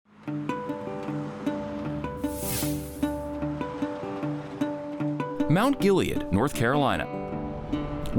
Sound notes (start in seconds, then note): 0.6 calm music; 2.1 air whooshing